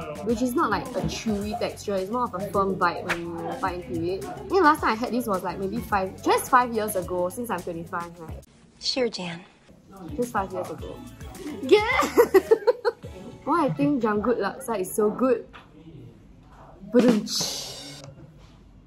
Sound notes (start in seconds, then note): 11.9 laughter